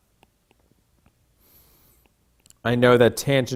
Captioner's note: stylus tapping